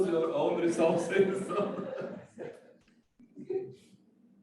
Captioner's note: laughs